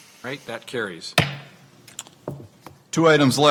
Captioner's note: gavel bangs